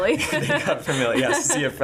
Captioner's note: laughing